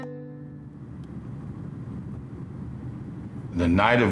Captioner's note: roadway passing